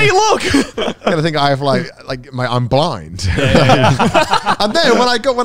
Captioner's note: laughing